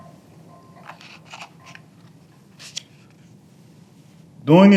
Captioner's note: papers rustling